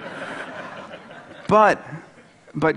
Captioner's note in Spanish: Risas